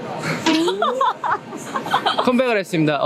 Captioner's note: & Staff laugh